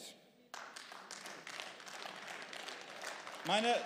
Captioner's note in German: Beifall